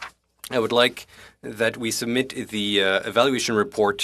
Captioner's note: speaking French